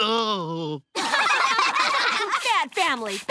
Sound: groaning; laughing

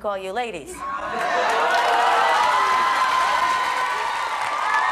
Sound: applauding

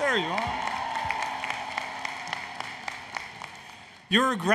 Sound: applause, Cheering

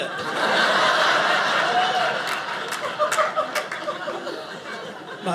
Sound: audience laughing

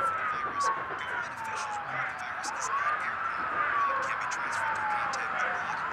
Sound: chanting

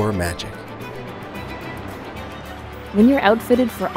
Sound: birds chirping; water rushing

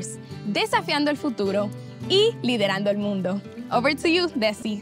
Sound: speaking in Spanish

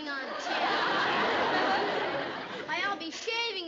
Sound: laughter

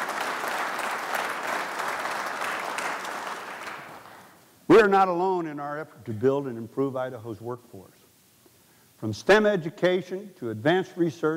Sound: applause

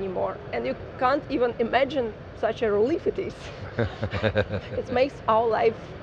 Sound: laughs

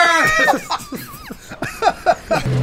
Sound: laughing

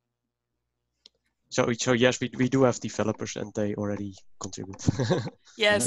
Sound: laughter

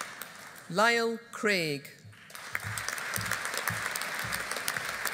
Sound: audience applauding

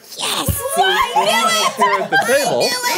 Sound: all cheering

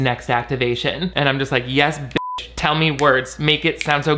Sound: beep

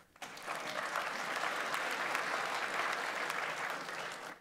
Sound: audience applauds

